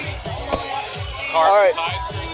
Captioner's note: car door closes